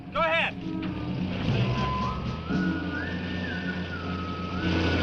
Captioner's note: engine revving